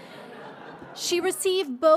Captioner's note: crowd laughing